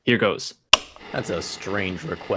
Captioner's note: click of switch ... voices on recording are filtered